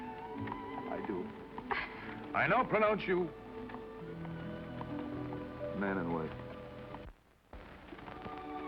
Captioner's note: in deep voice